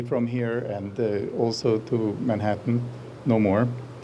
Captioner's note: none